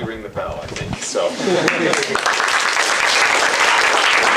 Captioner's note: applause